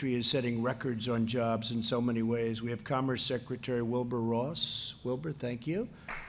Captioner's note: applause